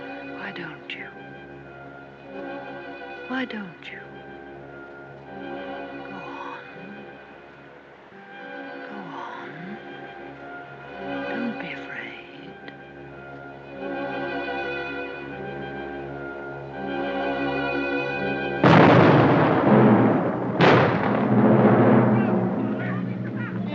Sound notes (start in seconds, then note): 18.6 explosion; 21.9 people clamoring